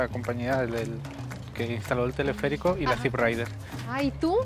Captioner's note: all speaking Spanish